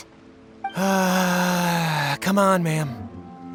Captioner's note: sigh